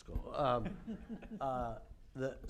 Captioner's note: laughs